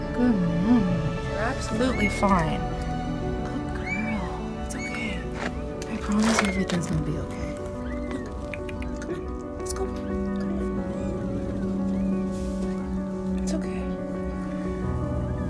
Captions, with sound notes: Good Mama. You're absolutely fine. Good girl. [Meow] It's okay. I promise you everything's gonna be okay. [Meows] Come on. [Tongue clicks] Come on, let's go. Come on. It's okay.